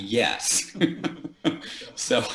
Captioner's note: laughs